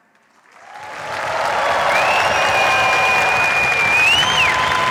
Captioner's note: cheers, applause